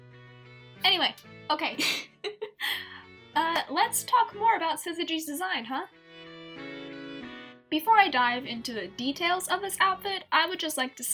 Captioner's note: laughs